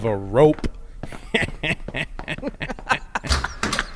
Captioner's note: guards snicker